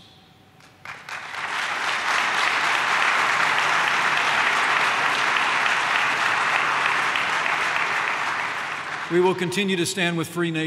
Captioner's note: applause